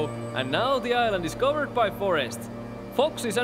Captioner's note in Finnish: lintujen laulua